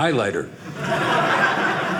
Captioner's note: audience laughing